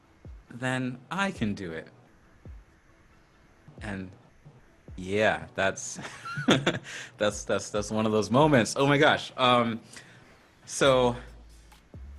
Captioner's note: laughs